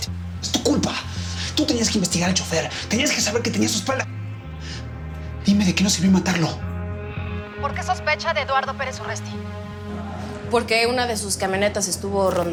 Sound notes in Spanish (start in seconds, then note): none